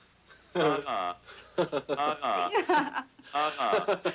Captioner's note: computer laughs; everyone laughs